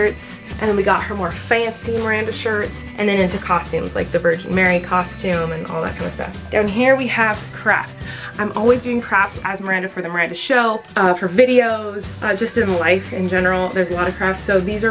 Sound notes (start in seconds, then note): none